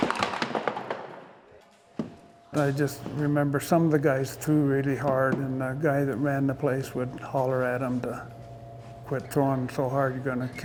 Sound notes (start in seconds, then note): 0.0 ball rolling down aisle and hitting pins